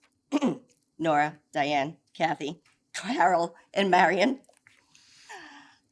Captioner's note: clears throat